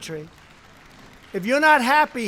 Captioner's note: applause